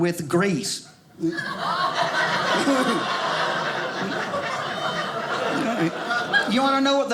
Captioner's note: audience laughing